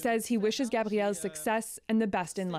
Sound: speaking French

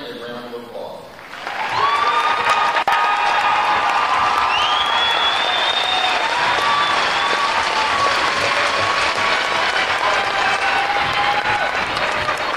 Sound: cheering and Applause

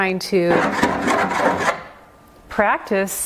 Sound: wood scraping canvas

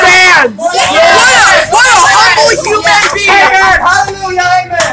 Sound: shrieks of approval

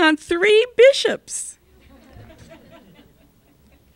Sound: laughter

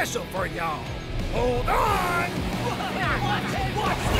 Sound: trucks shouting

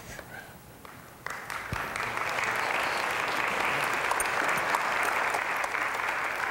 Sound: applause

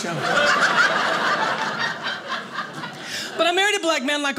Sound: audience laughing

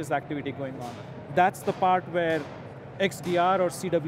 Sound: metal clinking

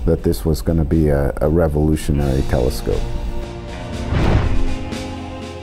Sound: boom

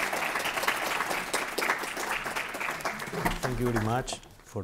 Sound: applause

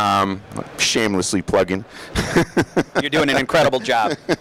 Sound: laughing

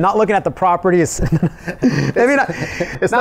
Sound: both laughing

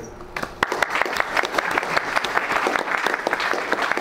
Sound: all applauding

